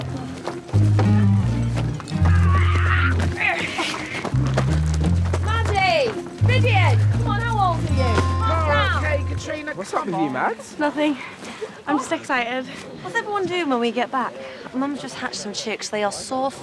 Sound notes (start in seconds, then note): 3.8 Maddy laughs; 3.8 Rydian shrieks